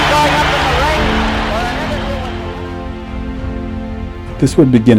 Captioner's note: laud laughter